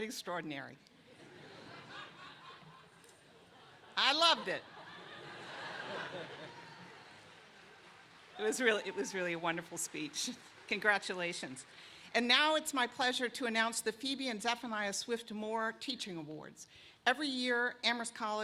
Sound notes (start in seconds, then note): 4.3 laughter